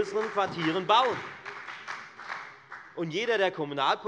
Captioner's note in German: Beifall bei der FDP und bei Abgeordneten der SPD